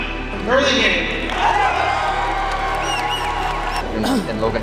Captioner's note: crowd cheering